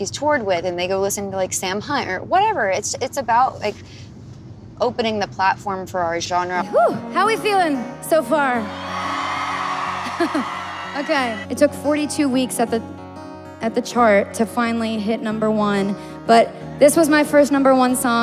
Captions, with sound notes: "Oh, wait. Who's this other artist that she's toured with?" And they go listen to Sam Hunt or whatever. It's about opening the platform for our genre. Whoo! How are we feeling so far? [CROWD CHEERING] Okay, it took 42 weeks at the chart to finally hit number one.